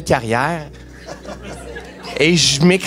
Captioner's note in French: rires